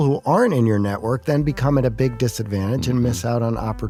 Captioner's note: coughs